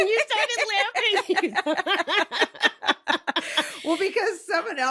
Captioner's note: laughing